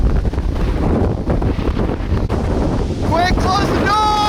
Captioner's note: wind blowing